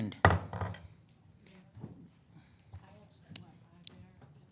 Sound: gavel thunks

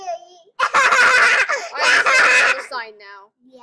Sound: evil Laughing

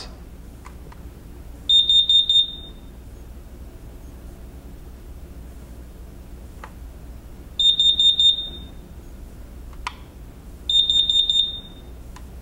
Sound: alarm beeps

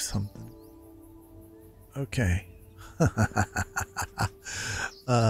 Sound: laughs

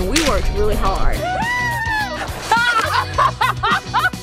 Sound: cheering

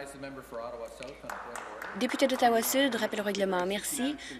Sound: some Applause

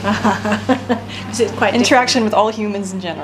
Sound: laughs

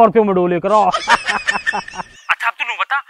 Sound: laughing

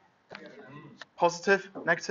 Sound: chattering

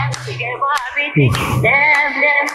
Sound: breathing

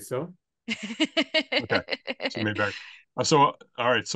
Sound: laughing

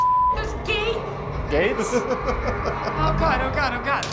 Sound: guide chuckles sinisterly

